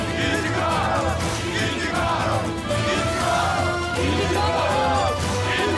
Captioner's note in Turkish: Hep bir ağızdan